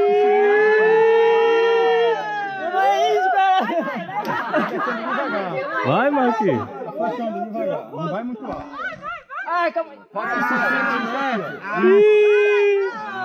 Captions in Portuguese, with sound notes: Menor é índio, caralh* (risos) Ah, calma aí.